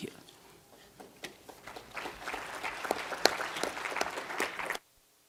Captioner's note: applause